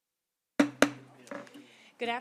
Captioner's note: gavel hitting dais